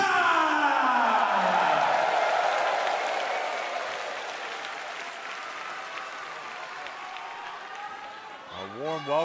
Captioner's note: cheers and applause